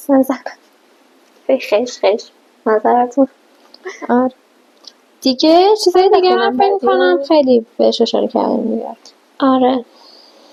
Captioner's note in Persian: خش خش